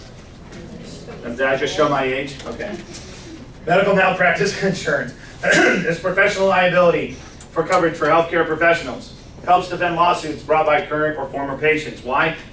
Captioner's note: laughs; clears throat